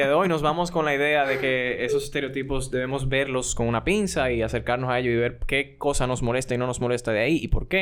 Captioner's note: laughs